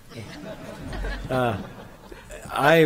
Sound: laughs

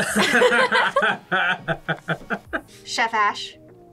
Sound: both laugh

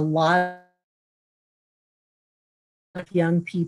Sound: silence

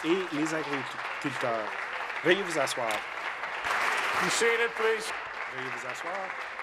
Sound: some Applause

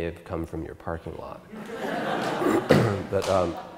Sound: audience Laugher

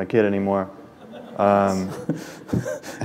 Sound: laughter

